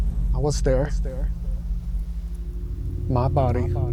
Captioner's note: echoing